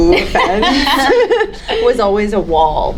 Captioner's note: panelists laughing